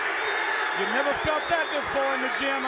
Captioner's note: crowd cheering